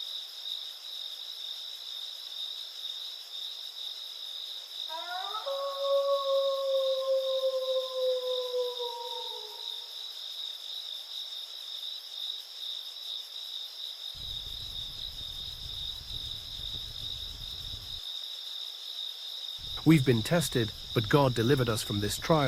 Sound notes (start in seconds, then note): 1.0 crickets chirping continues; 4.9 wolf howling; 10.1 crickets chirping continues